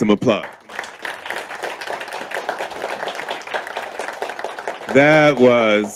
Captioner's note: audience clapping